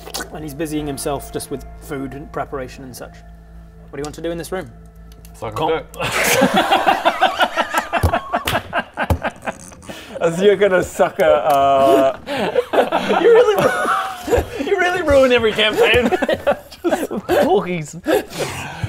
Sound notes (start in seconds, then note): 6.0 surprisingly surprised laughter